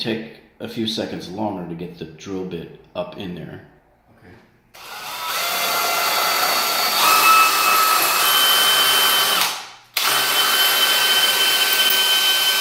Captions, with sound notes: a few seconds longer to get the drill bit up in there. (drilling)